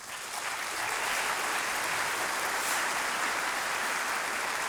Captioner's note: audience applauding